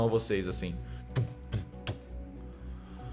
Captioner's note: sounds of heavy steps